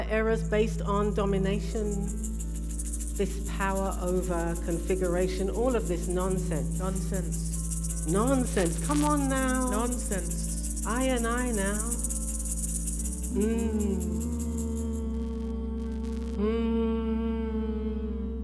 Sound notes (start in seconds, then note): 7.2 voices repeat, echo